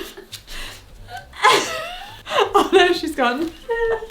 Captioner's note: both laugh